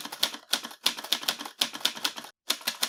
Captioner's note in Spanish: Sonidos de máquina de escribir